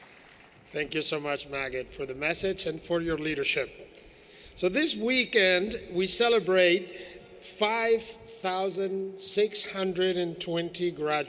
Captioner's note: applause